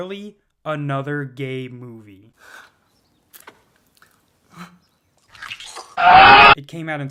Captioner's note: aggressive moaning